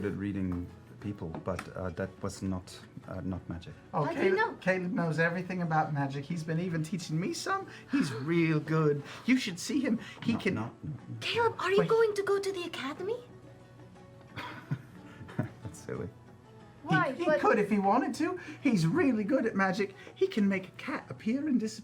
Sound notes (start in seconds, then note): 14.3 strained laugh